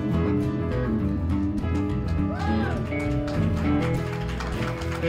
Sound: cheers and applause

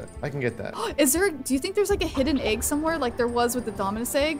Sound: gasps

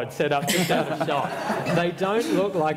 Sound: laughter

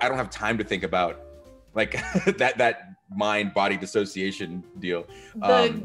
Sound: laugh

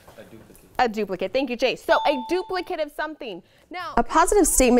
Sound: ding

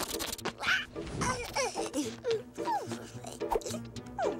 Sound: cooing

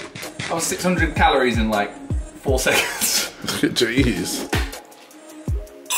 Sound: whipping cream squirting

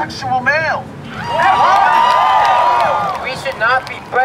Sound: cheers and applause

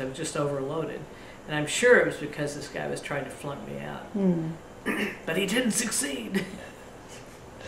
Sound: laughs

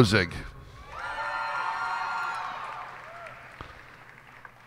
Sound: cheers and applause

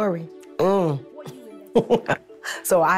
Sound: chuckling

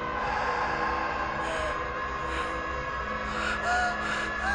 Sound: scared breathing

